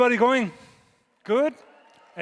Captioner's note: audience cheering